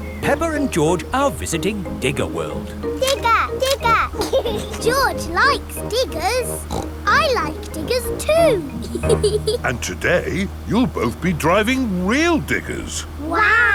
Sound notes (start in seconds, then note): 4.5 laughs; 6.4 snorts; 9.0 laughs